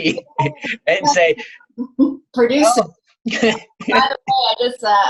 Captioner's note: laughs